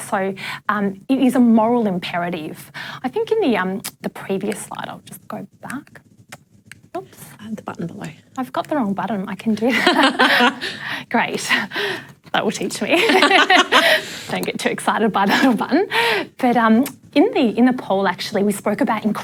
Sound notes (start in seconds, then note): 9.7 laughs; 12.9 laughter